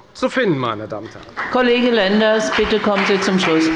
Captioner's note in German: Beifall bei der FDP